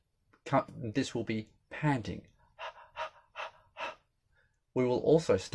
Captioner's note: example of panting